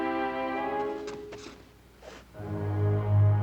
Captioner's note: rustling